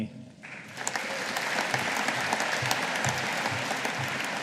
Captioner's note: audience applauding